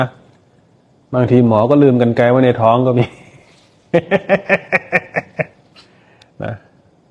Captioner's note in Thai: เสียงหัวเราะ